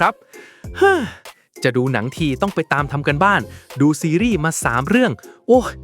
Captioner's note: sighs